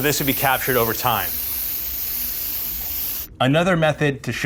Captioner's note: spray can hissing